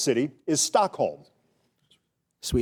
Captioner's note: contestants whispering